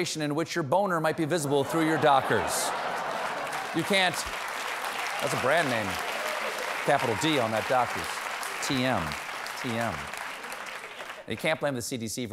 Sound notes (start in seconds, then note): 3.7 applause; 3.7 laughter